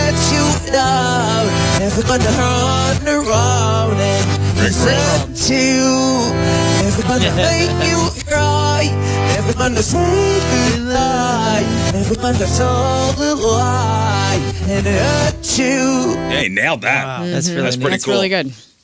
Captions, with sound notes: (laughing) Hey nailed that. That's really good.